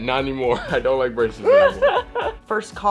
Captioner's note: Elle laughs